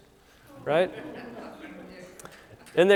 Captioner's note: audience laughs